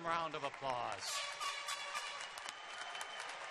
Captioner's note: loud cheers and applause; air horn blowing; loud cheers and applause